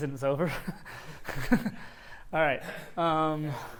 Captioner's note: laughs